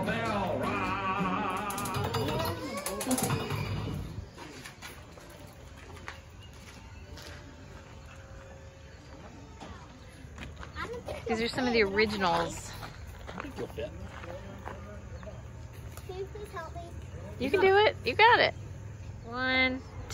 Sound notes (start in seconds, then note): 1.0 turnstile cranking